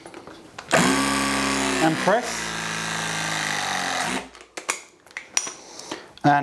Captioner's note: press gun vibrates loudly